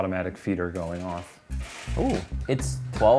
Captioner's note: feeder rattles